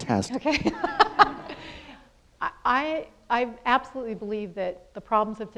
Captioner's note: laughs